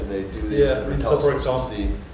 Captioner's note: laughter